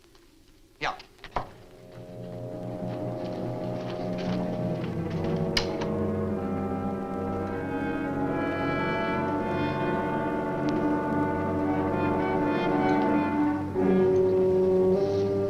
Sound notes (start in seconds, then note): 1.5 suspenseful orchestral music; 5.3 door opens